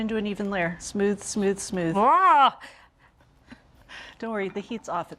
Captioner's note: Julia cries out